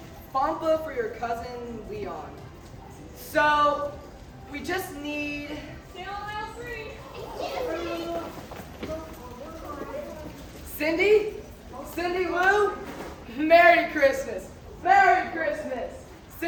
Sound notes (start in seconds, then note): 8.1 shoppers bustling